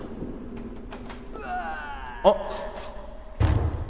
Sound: death sound

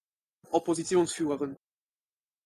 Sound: fast Pronunciation

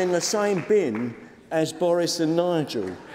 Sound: applause

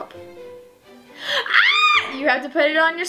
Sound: screams

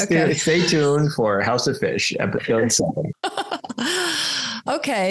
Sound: laughs

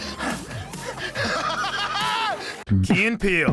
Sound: laughing maniacally

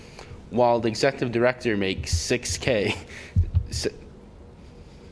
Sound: laughter

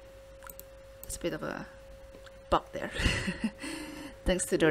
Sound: giggles

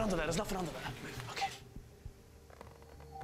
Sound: creaking

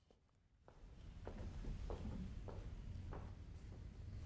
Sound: footsteps tapping

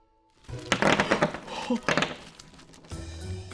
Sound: clattering

